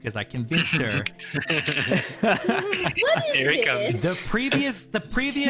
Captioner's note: all knowing laughter